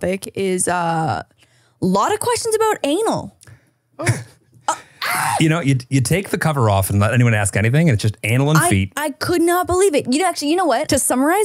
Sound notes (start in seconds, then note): 4.0 chuckling; 4.8 screaming